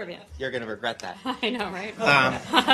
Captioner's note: laughter